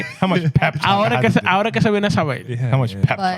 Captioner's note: speaking Spanish